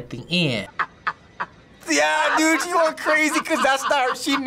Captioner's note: man cackling